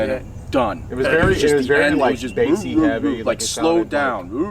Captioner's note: mumbling